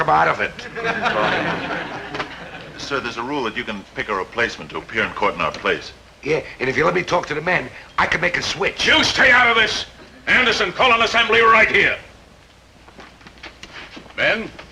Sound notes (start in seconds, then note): 0.5 audience chuckling